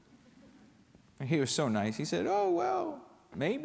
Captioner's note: laughter